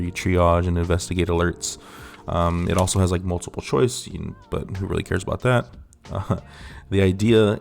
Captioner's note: laughs